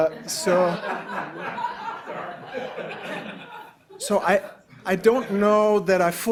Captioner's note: attendees laughing